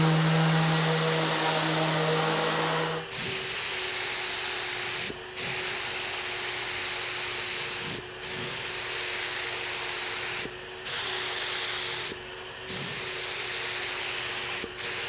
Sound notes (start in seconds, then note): 3.2 machine whirring